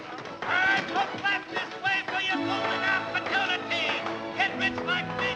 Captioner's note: shouting outside